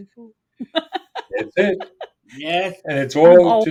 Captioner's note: laughing